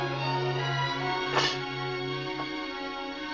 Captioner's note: tray clanks